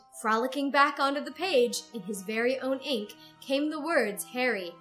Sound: none

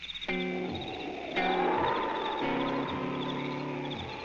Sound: wind blowing

